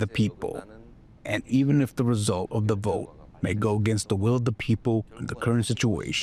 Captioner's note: speaking korean